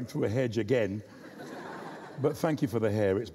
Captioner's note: audience laughs